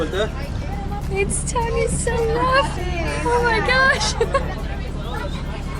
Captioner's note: laughter